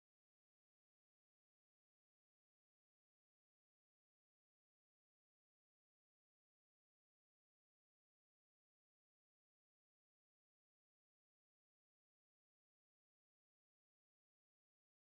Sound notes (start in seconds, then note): none